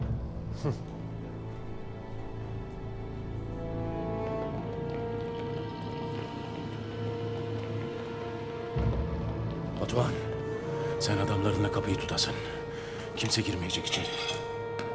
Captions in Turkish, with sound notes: (Müzik - Gerilim) (Ayak sesleri) Batuhan, sen adamlarınla kapıyı tutasın. Kimse girmeyecek içeri.